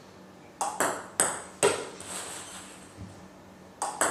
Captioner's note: ball ping pong hitting